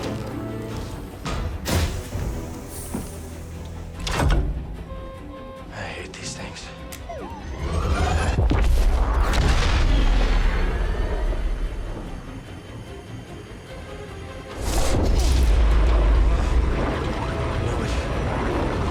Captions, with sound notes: CAL I hate these things. (BD-1 CHIRPS) CAL Oh! I knew it!